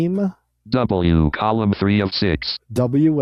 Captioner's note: automated Voice